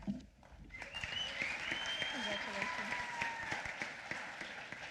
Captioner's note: applause